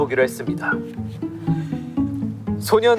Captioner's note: hahaha